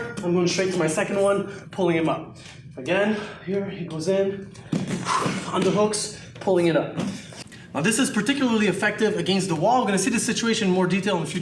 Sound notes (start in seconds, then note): 4.4 exhales